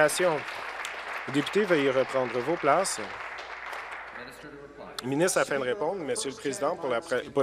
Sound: applause

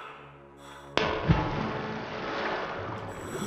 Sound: sploosh

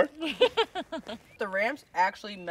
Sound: laughing

